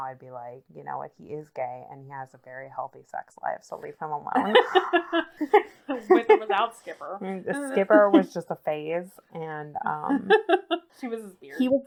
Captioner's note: laughs